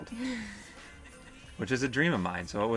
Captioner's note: laughter